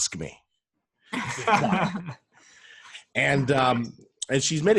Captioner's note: laughter